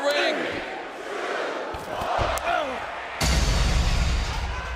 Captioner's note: crowd cheering